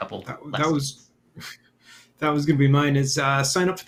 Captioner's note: chuckles